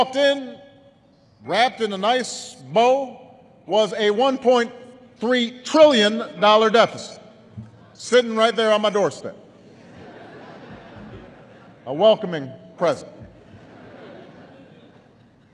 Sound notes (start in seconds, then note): 9.5 laughter